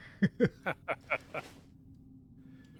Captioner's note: laughing